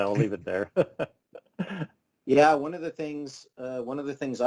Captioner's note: chuckles